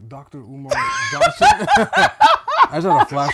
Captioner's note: laughing